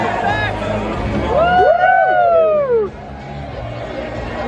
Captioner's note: crowd cheering